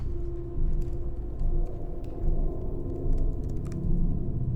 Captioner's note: keyboard clicking